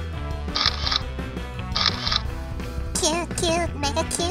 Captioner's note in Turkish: Fotoğraf Çekme Sesleri